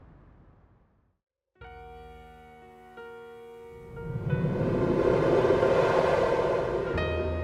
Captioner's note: air whooshing; gentle jazzy music